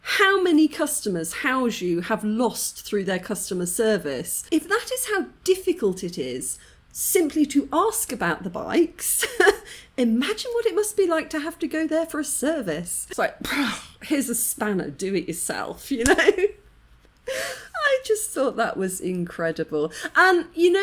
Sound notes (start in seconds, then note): 13.7 sigh; 16.0 laughing